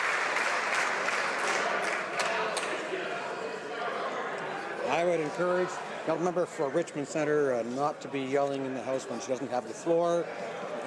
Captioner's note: applause